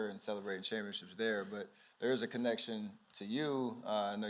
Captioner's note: none